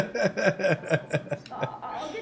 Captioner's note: laughing